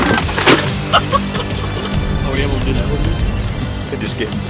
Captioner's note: laughter